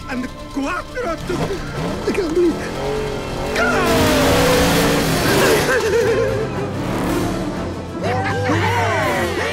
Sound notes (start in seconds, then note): 4.4 engines roaring; 6.2 upbeat music